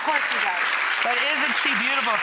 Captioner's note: audience applauding